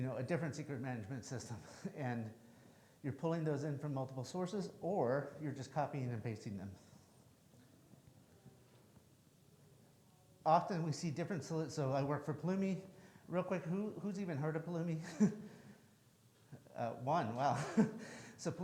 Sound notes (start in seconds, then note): 17.3 chuckles